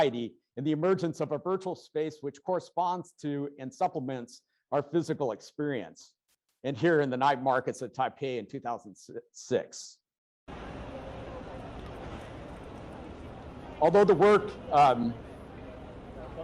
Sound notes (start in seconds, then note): 10.5 vehicles rumbling